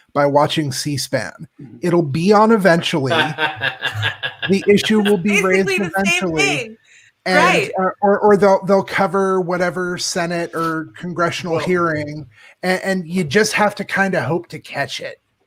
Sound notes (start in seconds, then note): 2.8 laughs